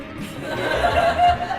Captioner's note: laughter